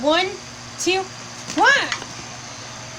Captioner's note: exclaiming